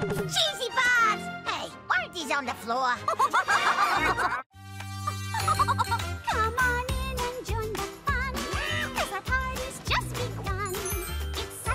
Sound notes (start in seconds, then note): 3.0 all laughing